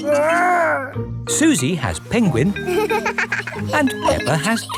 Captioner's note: giggles